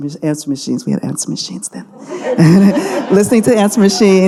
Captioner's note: audience laughing